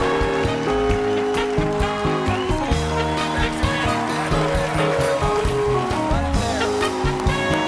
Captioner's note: applause